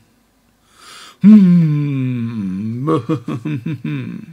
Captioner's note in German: humming